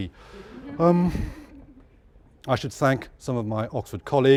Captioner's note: laugh